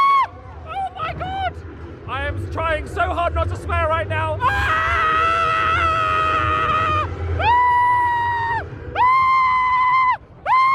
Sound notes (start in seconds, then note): 4.4 screams